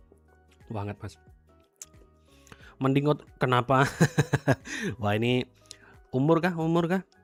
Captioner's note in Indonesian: tertawa